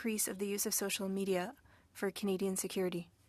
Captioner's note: speaking French